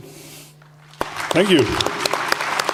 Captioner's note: thunderous applause